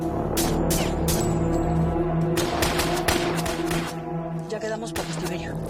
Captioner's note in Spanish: Disparos